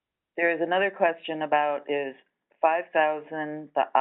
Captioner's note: voiceover